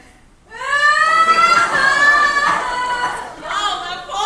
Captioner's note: Ermengarde cries louder